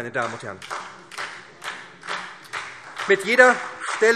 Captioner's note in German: Beifall SPD und Freie Demokraten